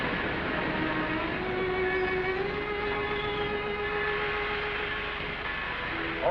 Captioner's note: gentle music; bell tolling